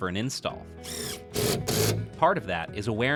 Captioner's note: drill motor